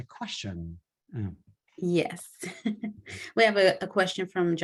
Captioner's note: laughter